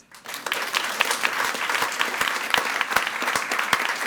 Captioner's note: all applauding